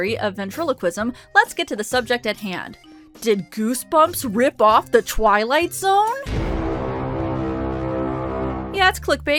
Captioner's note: ominous Sound Effect